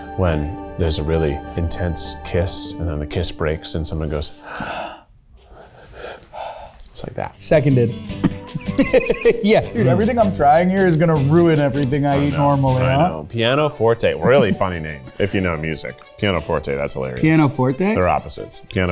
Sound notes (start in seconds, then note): 4.4 quietly gasping; 8.1 laughing